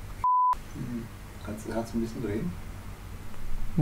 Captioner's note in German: Aus dem Off